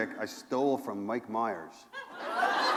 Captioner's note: laughter